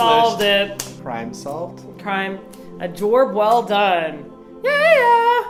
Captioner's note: cockney accent